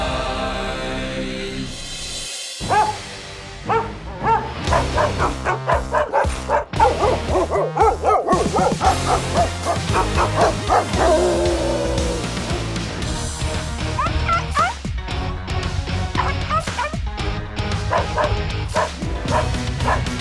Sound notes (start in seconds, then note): 2.6 barking; 6.7 barking; 10.8 howling; 13.9 whining; 17.9 barking